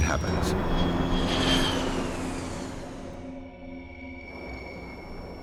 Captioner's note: Learjet engines whine